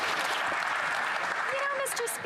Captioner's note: applause